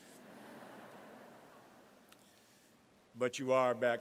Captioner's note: audience laugh